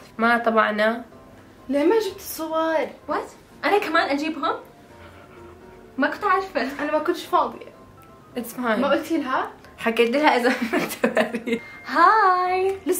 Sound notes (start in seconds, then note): 11.0 laughs